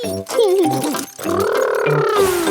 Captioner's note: laughs